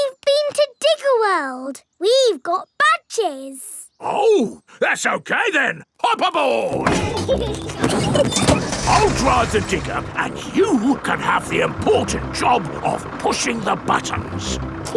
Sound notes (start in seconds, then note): 6.7 peppa and george laughing